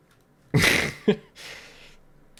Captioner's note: laughs